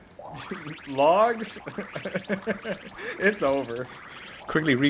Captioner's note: laughs